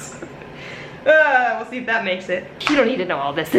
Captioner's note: laughs; groans